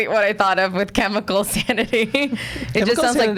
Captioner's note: laughs